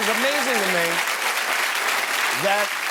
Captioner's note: cheers and applause